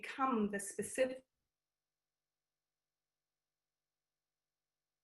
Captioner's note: audio cuts out